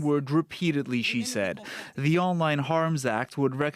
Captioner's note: speaking French